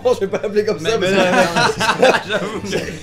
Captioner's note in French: Rires